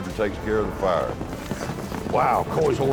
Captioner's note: fast hoofbeats